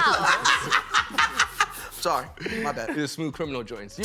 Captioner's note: laughing